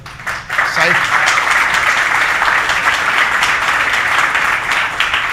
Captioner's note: audience applauding